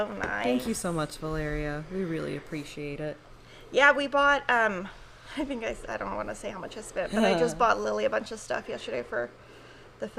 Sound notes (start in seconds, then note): 7.5 chuckles